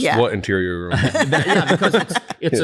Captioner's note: laughter